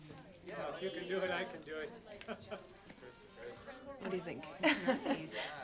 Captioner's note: laughs